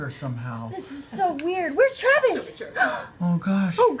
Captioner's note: gasps